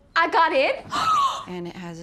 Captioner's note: gasps